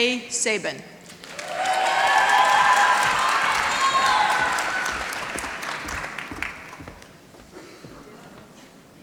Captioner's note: applause